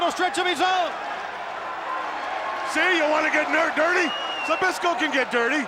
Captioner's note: applause